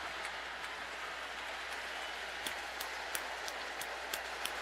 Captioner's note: cheers and applause